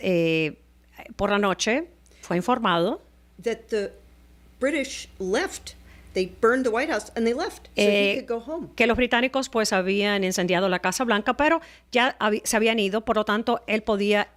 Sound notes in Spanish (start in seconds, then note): 1.1 Hablando ingl\s